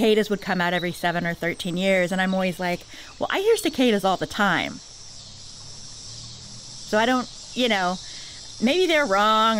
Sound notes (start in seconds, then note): 4.7 nature sounds, add cicadas